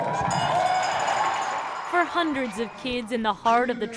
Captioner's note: cheering